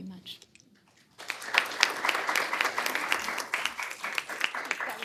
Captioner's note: applause